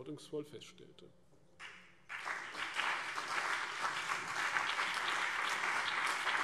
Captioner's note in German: Beifall CDU und BÜNDNIS 90/DIE GRÜNEN